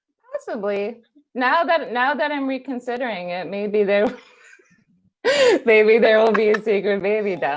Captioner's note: laughs